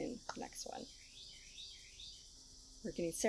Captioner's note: bird chirping